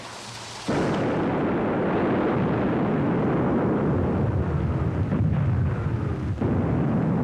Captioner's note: explosions